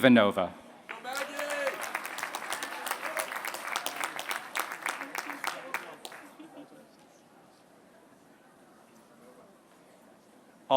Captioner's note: applause